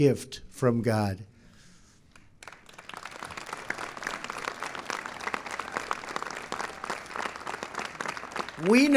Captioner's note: applause